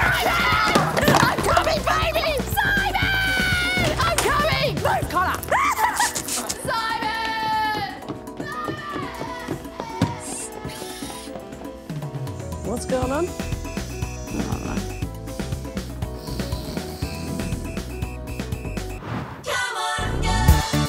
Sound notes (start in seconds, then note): 5.5 shrieks; 16.0 snores